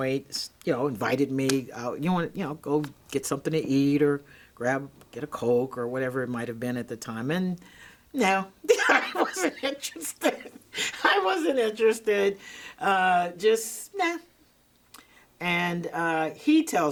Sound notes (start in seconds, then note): 6.1 laughing